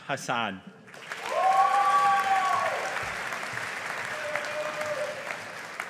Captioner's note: audience applauding